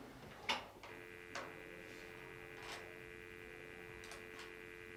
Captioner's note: dial tone humming